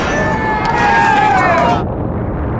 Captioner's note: cheering